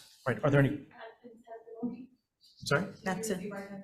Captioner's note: speaking faintly off mic